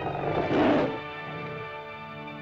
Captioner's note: dramatic music; lizard snarls; dramatic music